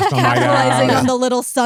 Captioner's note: laughing